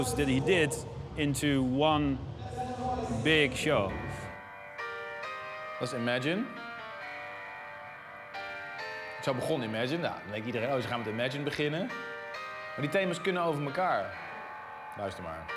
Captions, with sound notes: that he did, into one big show. (soft intense music) (speaking in foreign language)